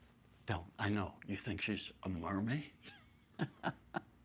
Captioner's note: laughs